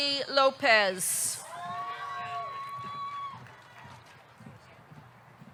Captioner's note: audience cheering